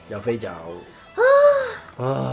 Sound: sigh

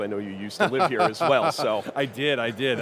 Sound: laughing; chuckling

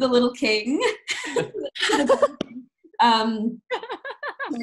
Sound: laughing

